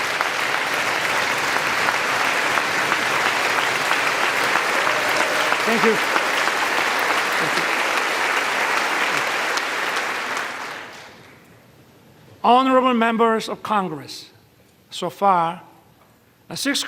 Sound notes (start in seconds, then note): 5.7 applause